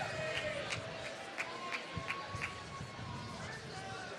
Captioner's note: applause